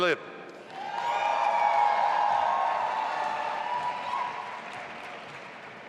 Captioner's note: audience applauding and cheering